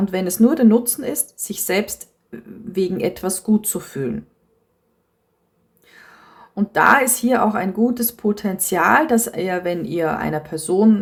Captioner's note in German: japst